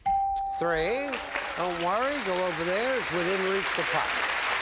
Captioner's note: bell; applause